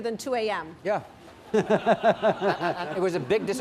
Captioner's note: laughter